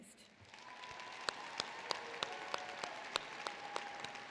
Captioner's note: applause